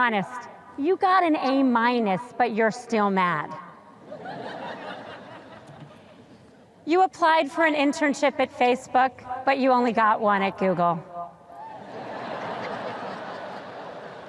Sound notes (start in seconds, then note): 4.1 sparse laughter; 11.8 audience laughs